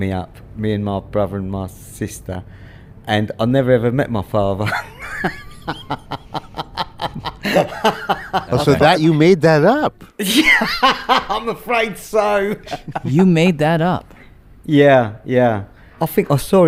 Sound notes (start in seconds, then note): 7.6 laughs; 11.8 laughs